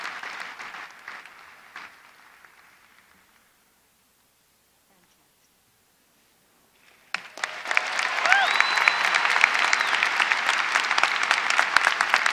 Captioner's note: applause